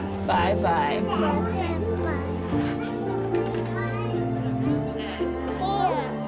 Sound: ambient noise, children's voices

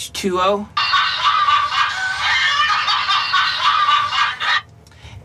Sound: laughter

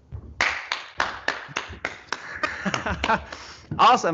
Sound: applauds

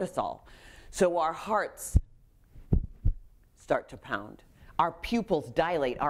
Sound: thumping sound

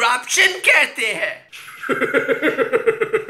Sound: Zardari Laughs

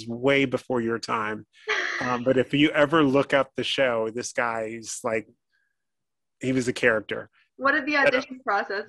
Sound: laughing

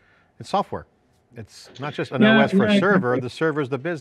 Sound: faintly speaking

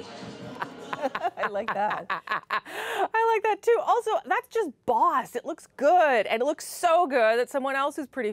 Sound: laughter

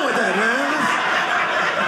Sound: audience laughing

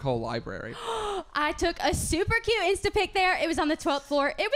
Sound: gasp

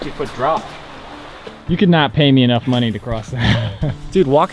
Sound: laughs

